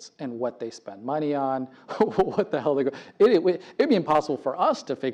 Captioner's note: laugh